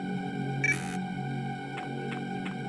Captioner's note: door lock buzzes